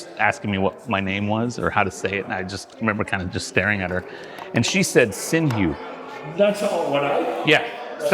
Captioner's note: mumbling